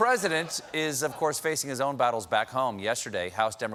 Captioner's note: laughter